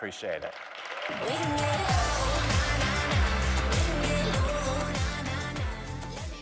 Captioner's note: audience applauds; upbeat music